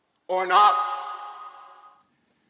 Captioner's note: echoing